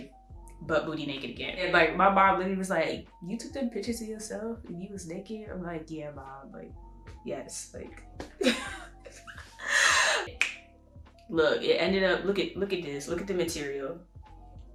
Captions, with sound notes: butt-booty naked again. And like my mom literally was like "You took them pictures of yourself and you was naked?" I was like "yeah, mom" Yes like...[laughs] [snaps]....look, it ended up...look look at this, look at the material